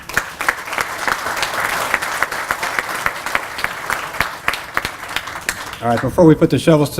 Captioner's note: applause